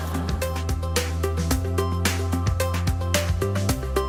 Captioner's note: laughter